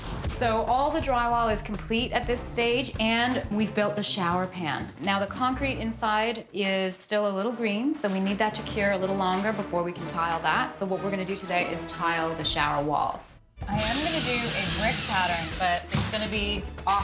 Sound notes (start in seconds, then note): none